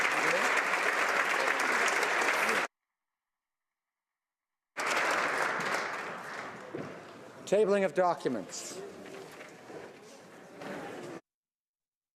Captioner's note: applause